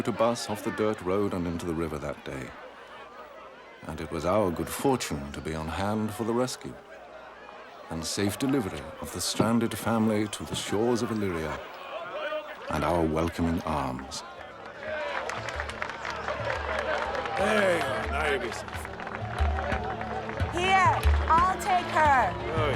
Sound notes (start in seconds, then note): 14.6 applause and cheering